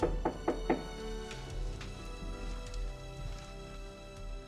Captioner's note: door knocking